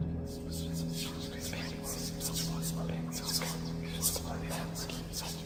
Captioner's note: whispering